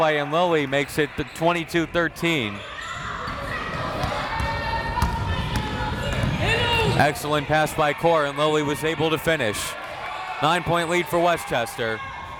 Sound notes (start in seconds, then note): 3.1 crowd members shouting